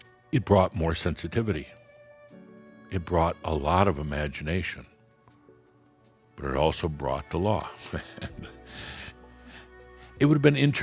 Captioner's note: Adamus chuckles